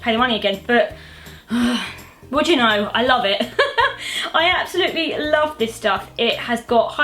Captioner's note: sighs; laughs